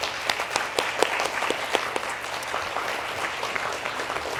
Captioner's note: applause